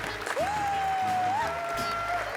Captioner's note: cheering